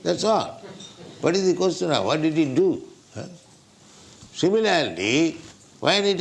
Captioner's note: laughter